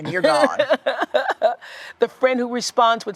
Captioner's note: laughs